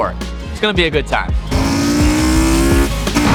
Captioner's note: engine roaring